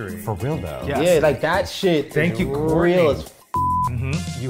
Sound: beep

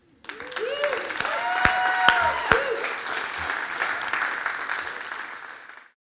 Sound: everyone clapping

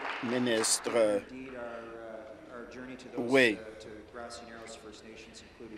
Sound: applause

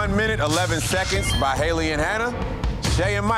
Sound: digital beeping

